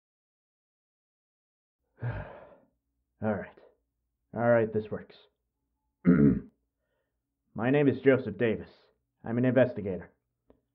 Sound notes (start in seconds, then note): 1.9 sigh; 6.0 clearing his throat